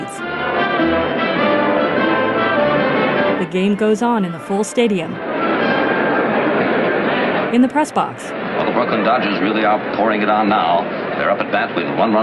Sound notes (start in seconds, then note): 3.0 rumble of the crowd